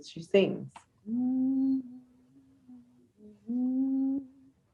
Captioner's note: humming